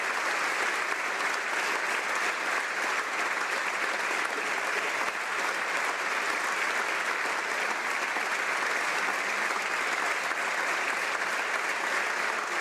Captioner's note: applause